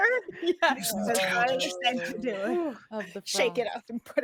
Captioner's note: all chattering